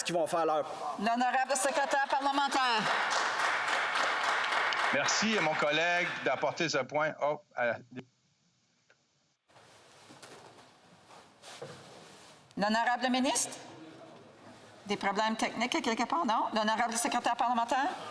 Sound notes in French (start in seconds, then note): 6.3 applaudissements